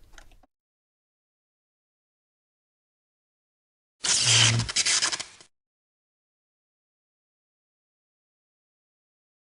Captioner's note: sparking sound